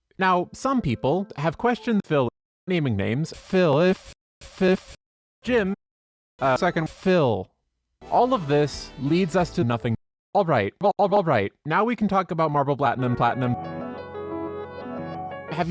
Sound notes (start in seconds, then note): none